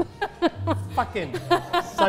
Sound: laughs

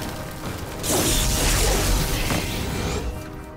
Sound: electric charging

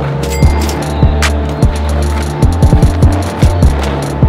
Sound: cha-ching

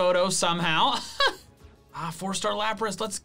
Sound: laughing

